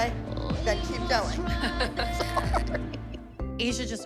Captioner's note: laughter